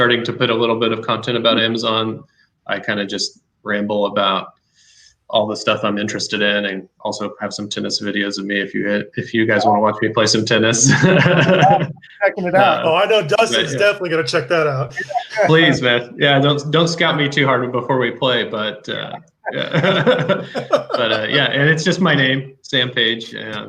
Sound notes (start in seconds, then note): 10.7 laughs